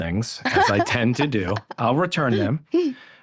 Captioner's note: laughs